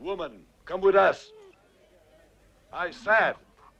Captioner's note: Beast whines